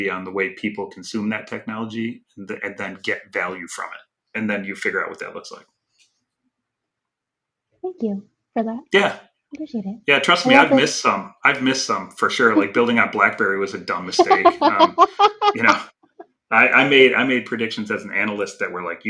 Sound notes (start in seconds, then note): 14.6 laughing